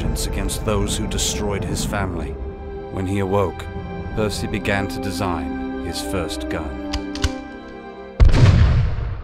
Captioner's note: gunshot